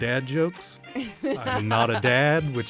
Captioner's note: laughs